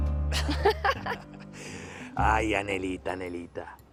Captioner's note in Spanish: Risas